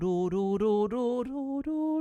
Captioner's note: humming